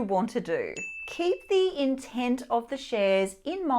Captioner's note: bell dings